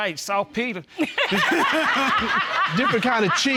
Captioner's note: all laughing